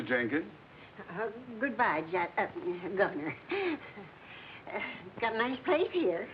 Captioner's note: stutters